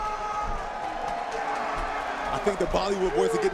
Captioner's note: cheers and applause